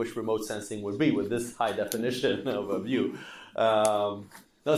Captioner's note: laughing